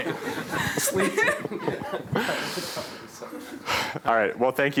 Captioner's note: laughter